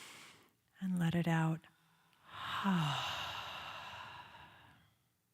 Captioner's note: inhales; exhales